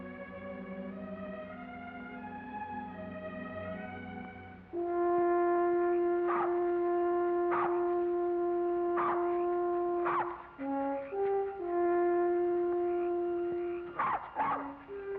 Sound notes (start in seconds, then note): 0.2 soft music; 4.7 dog barks; 4.7 ominous music